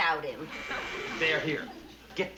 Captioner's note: buzzing